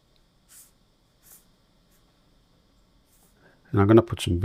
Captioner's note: silence